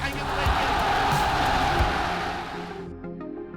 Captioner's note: applause